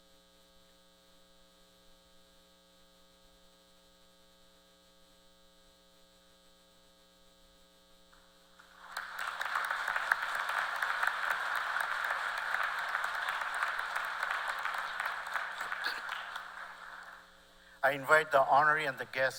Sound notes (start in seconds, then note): 15.7 applause